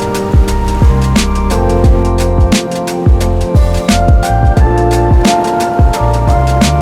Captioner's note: upbeat music; waves lapping